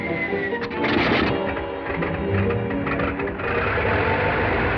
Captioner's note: whistle blowing; plane whirring